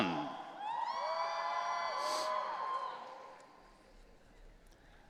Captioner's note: audience cheering